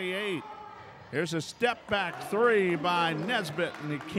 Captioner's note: yelling